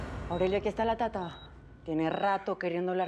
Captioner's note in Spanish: Sonido del monitor